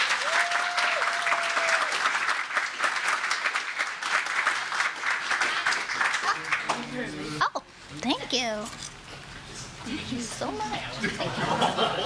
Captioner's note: applause